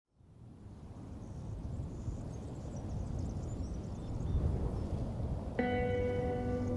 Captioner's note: wind